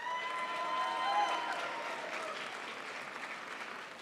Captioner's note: crowd applauds